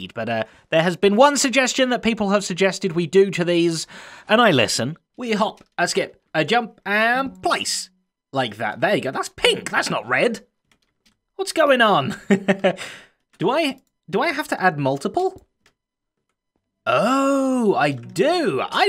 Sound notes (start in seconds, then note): 12.0 chuckles